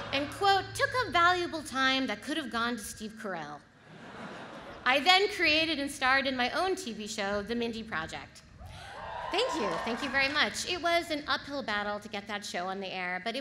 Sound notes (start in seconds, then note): 8.8 audience applauds